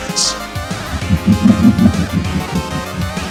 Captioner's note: evil Chuckling, not Laughter